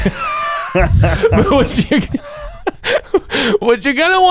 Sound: laughing

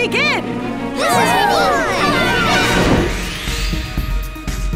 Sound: cheering

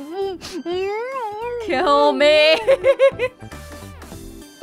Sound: chuckles

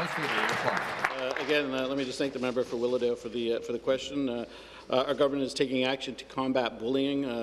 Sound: applause

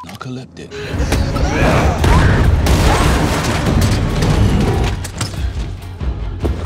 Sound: beep; dramatic suspense music; fighters grunting

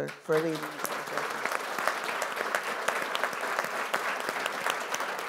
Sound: audience applauding

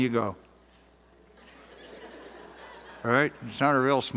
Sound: laughter

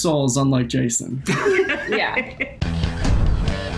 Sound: laughs; upbeat rock interlude

